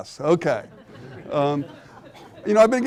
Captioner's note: audience laughing